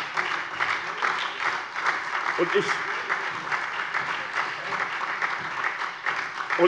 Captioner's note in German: Beifall SPD und vereinzelt DIE LINKE